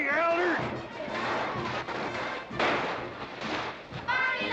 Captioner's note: firecrackers popping; children chanting